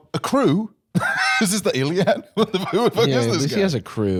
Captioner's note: laughs